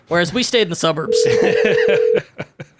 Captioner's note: laughing